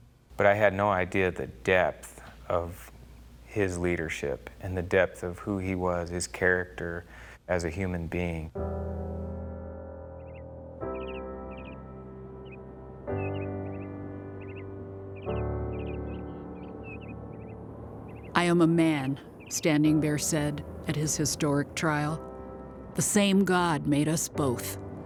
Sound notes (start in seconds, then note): 8.7 instrumental music; 10.4 birds